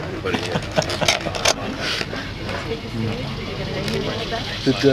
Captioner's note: laughter